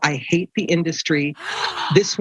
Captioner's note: gasps